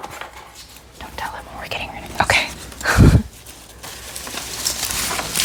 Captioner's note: whispers